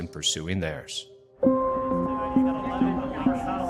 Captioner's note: pensive dramatic music; people chattering